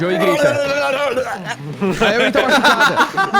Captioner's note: everyone laughs